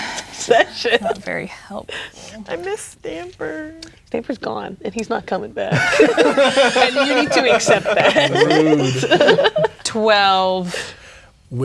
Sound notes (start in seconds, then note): 0.0 laughing; 3.0 whining; 5.7 players laughing